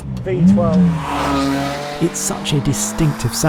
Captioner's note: engine roars